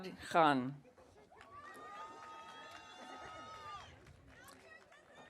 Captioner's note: audience cheering